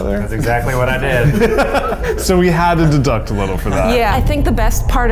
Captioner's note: laughs